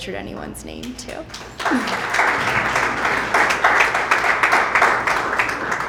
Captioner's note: applause